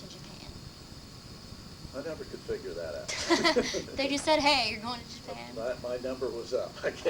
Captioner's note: laughter